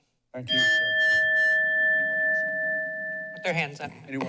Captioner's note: bell rings